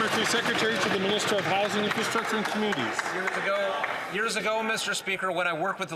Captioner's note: some Applause